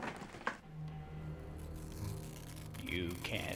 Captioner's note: paper Tearing